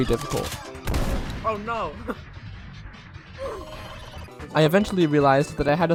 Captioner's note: laughing